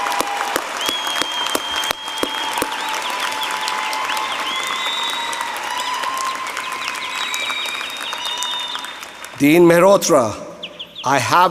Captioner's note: applause